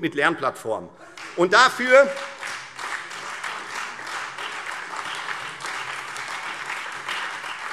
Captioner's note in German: Lebhafter Beifall Freie Demokraten - Beifall SPD